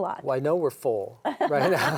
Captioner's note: group laughs